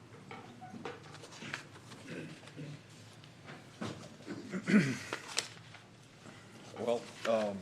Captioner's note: clears throat